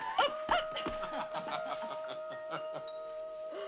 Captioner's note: laughing